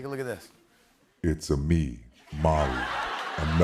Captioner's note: laughter